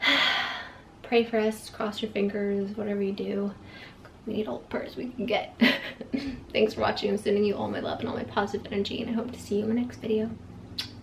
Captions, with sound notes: Pray for us, cross your fingers, whatever you do; we need all the prayers we can get. Thanks for watching, sending all my love and all my positive energy and I hope to see you in the next video. *kiss*